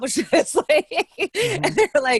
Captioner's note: laughing